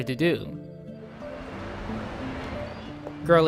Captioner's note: quiet city sounds play